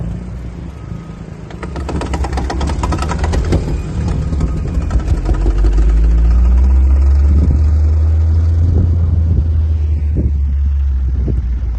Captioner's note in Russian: Звук мотора; Звук рёва мотора